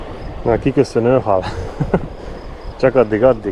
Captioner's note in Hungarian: nevetés